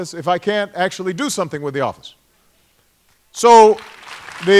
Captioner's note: applause